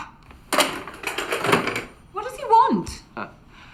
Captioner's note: phone clattering